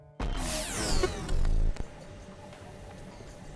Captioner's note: grinding digital transition